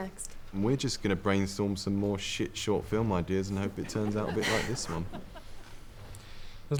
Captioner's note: audience chuckle